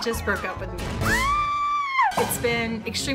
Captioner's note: scream